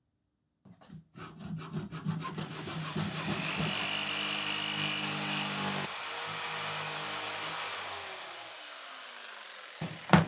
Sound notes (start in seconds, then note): 0.6 sawing; 2.4 jigsaw whirring